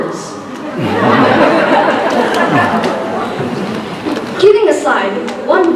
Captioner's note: laughter